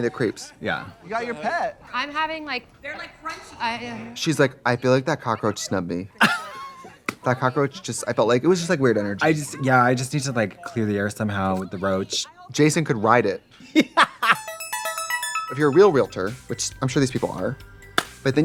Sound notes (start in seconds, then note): 6.2 Katya laughs; 14.0 upbeat music